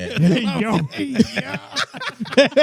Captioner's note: laughing